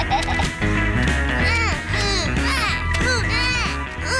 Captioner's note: snorts and laughs; both grunting